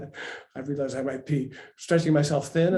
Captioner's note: laughs